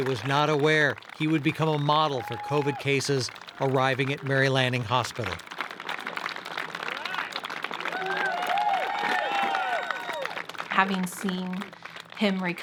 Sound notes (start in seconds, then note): 9.4 staff whooping and clapping